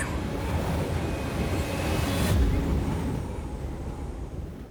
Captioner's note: wind howling